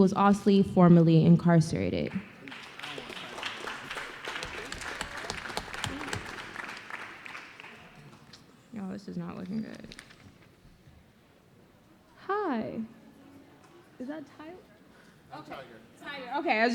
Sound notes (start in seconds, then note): 2.1 applause